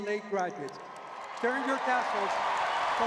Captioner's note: audience cheering